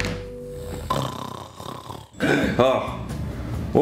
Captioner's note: snores